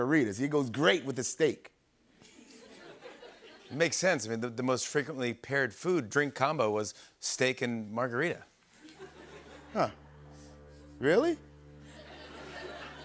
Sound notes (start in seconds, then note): 2.2 laughter; 9.1 ominous music plays